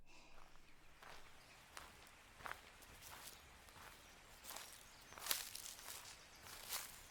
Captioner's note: birds chirping; leaves rustling